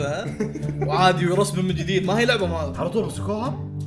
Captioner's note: sarcastically